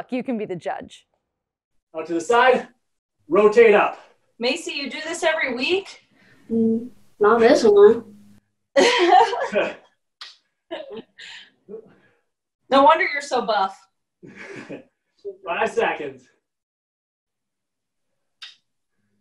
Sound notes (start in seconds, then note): 8.7 laughter